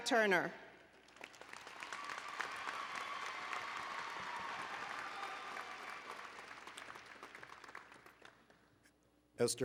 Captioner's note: applause and Cheering